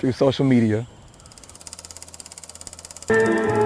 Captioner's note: old film projector